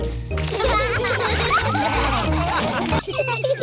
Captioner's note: all laugh